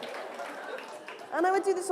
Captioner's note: laughter